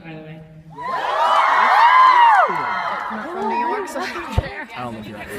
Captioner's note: audience cheers